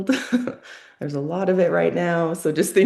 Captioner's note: laughs